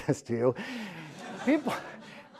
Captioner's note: laughs